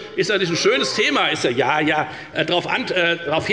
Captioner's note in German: Zuruf